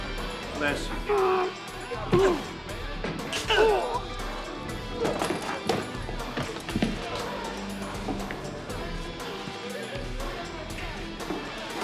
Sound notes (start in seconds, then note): 3.3 groans